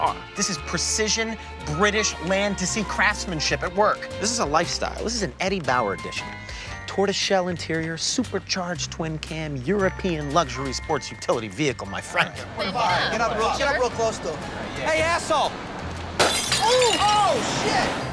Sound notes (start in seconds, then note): 16.1 glass shattering